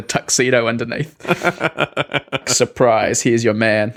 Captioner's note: Grey laughing